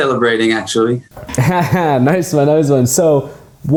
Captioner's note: chuckles